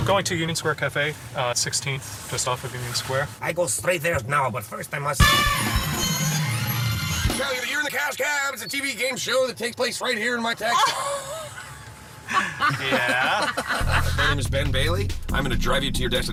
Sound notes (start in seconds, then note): 7.9 alarm sounds, bells ring; 14.5 laughs